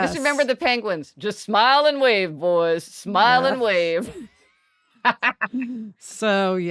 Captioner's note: laughs